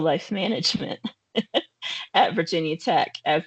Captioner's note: laughing